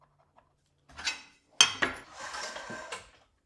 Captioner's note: ruler clanking; slider scraping and clicking